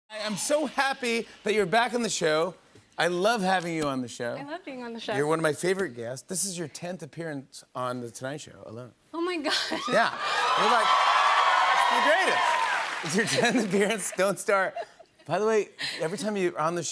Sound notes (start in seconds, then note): 10.0 cheers and applause